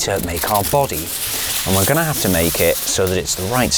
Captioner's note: tinfoil rustles